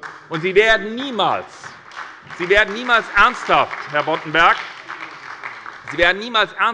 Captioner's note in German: Beifall bei der SPD